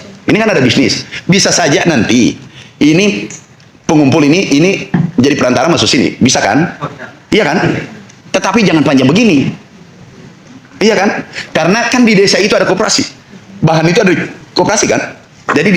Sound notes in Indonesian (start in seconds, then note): 6.8 berdehem